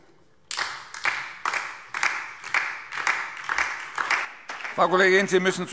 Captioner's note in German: Beifall DIE LINKE und vereinzelt SPD